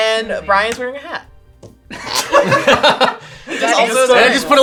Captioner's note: laughing